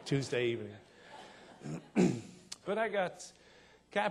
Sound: audience laughing

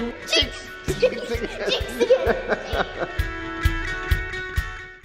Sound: laughs

